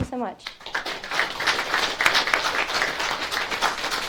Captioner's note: audience claps